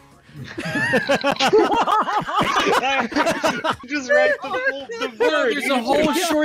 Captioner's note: laughter